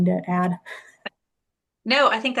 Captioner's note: chuckles